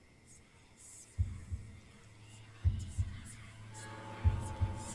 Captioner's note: eerie whispering